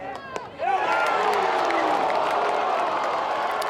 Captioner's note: crowd boos